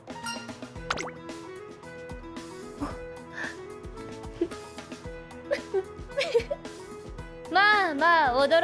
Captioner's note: laughs